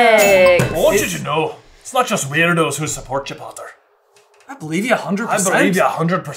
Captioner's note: none